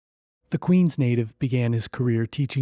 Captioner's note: voiceover